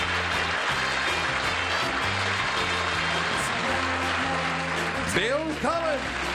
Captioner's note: applause